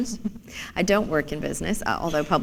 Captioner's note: chuckle